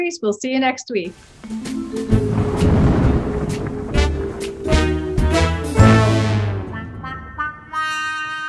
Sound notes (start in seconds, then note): 1.4 mysterious jazz music; 1.8 thunder crashing